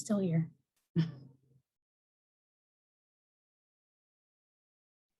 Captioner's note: chuckles